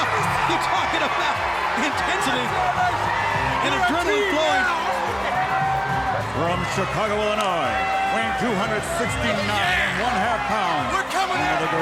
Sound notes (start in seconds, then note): 0.0 Steve screams; 2.7 wrestlers yelling